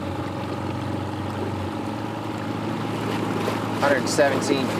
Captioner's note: motor chugging